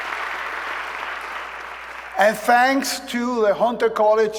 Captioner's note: applause